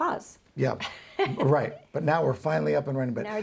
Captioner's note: laughs